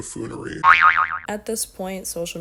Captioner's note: boi-oi-oing